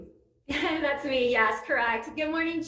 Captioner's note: laughs